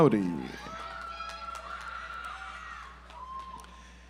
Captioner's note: audience applauds